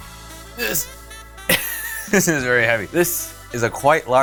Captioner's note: laughs